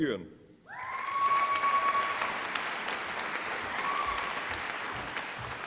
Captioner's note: applause and cheering